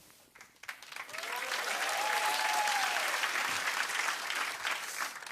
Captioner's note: cheers and applause